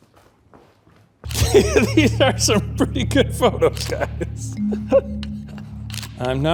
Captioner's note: laughs